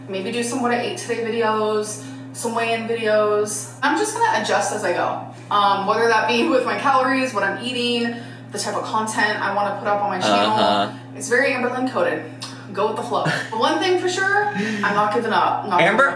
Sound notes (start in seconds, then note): 13.2 chuckling